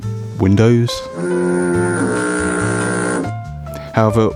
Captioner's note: horn